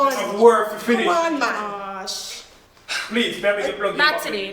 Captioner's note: everybody yelling loudly